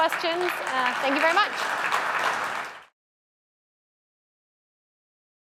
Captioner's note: applause